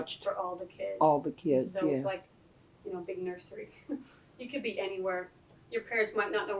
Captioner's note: laughs